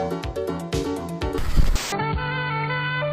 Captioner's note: TV static; smooth jazz